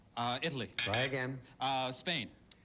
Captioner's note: buzz buzz